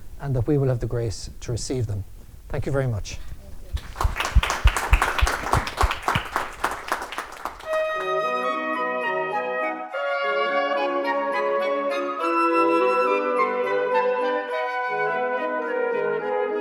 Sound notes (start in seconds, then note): 3.7 applause